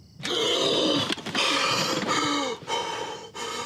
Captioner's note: Scott gasps